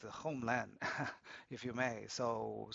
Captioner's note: laughs